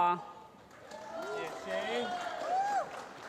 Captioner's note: applause